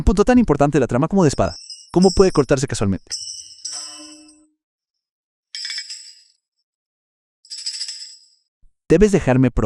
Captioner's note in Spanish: campana